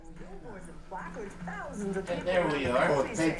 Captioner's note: television sounding the background